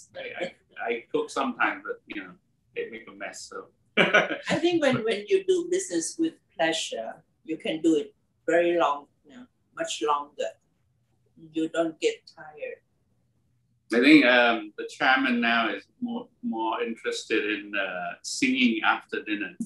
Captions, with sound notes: >> He cooks. >> I cook sometimes but I makes a mess. >> [LAUGH] >> I think when you do business with pleasure, you can do it much longer, you don't get tired. >> I think the chairman now is more more interested in singing after dinner.